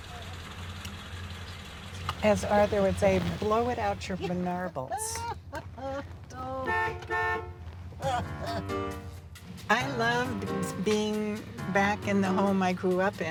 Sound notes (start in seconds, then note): 5.0 laughter; 6.6 car honks; 8.1 laughter